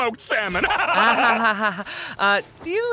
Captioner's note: laughs manically